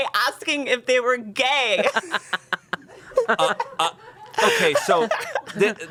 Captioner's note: everyone laughs